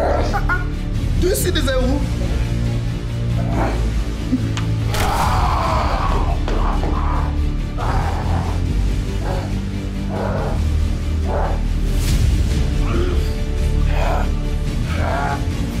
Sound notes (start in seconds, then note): 4.9 both screaming